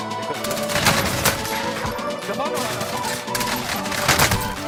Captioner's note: gun firing